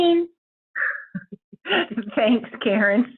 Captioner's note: chuckles lightly